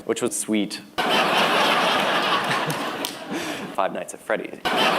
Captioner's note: uproarious laughter